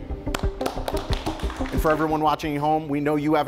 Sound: competitors applauding

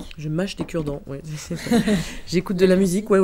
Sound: laughs

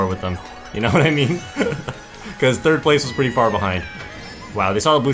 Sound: laughs

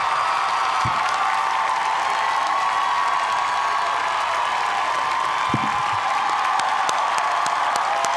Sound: cheers and applause

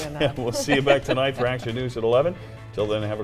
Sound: laughter

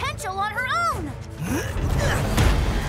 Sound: Cole grunts

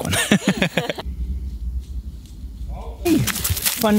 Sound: laughing

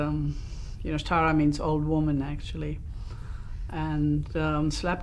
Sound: non-english

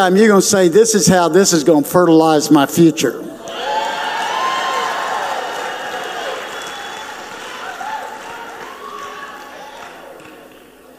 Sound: audience cheers

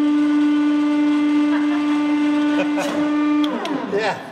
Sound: both: laughing

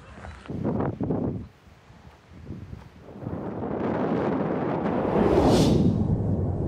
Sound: gusts of wind

